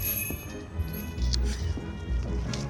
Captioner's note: door bell jingles